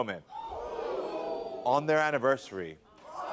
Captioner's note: audience gasps